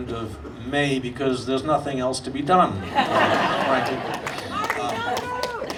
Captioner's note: audience laughing